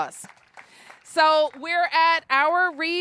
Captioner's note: applause